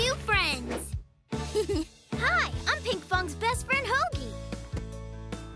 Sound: chuckles

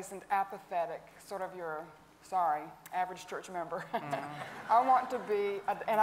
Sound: chuckles

